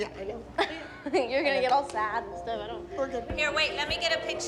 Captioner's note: laughs